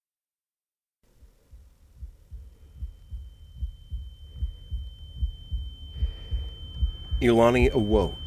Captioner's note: heartbeat sound and ear whine fade in